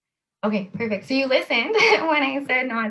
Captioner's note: laughs